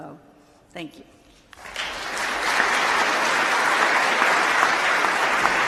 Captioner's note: applause